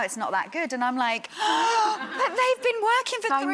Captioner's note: gasps